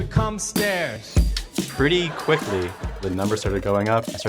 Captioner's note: crowd laughing